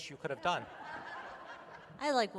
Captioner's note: laughter